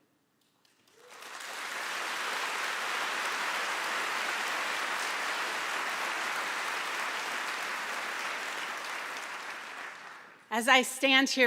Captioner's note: applause